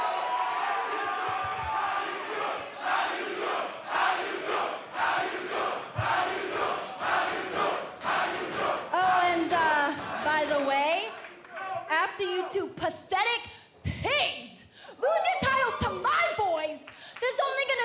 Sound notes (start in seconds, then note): 0.0 cheers and applause; 3.5 fans chanting